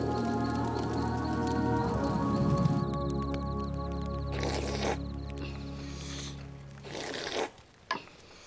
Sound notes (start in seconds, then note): 4.0 slurping loudly